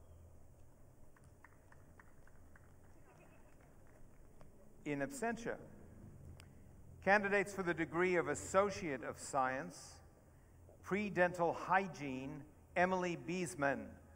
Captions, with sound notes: (audience clapping) In absentia. Candidates for the degree of Associate of Science, Pre-dental Hygiene, Emily Bisman.